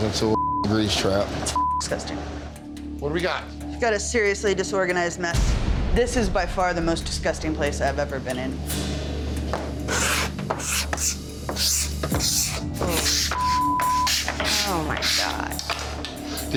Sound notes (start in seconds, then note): 1.5 beep; 9.8 knife scratching; 13.4 beep